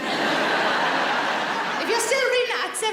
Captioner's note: audience laughs